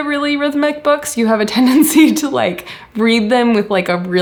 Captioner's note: chuckles